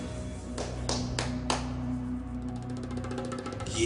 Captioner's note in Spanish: Aplausos